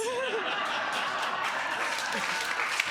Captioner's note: all laughing